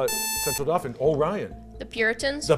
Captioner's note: buzzer